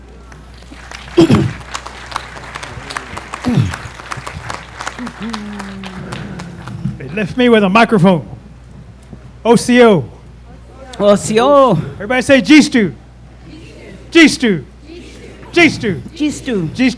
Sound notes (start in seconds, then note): 0.0 applause